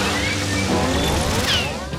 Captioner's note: whizzing